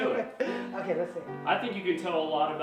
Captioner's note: laughing